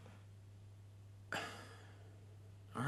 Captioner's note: defeated sigh